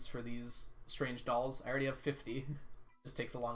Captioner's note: chuckles